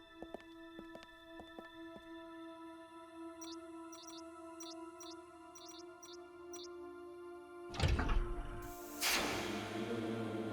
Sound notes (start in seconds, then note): 3.4 device beeping; 7.7 door opens